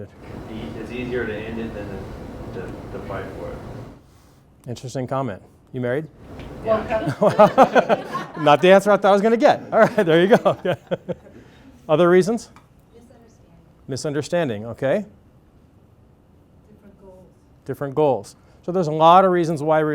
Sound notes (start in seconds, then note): 6.6 laughter